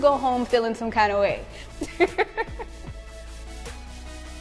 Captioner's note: laughing